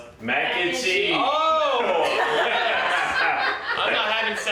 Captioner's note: laughing